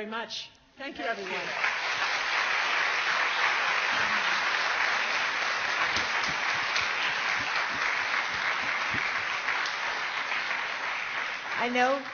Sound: applause

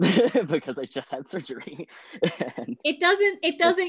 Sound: laughing

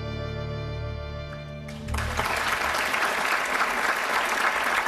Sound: audience applauds

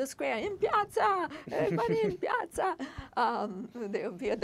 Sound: speaking foreign language

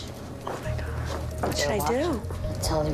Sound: whispers

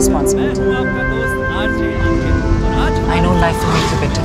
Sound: radio playing

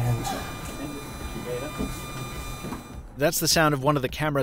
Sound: audio feedback ringing

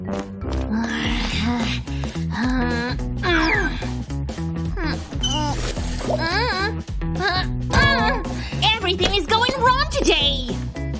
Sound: groans; grumbles

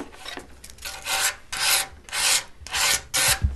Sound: grinding noises

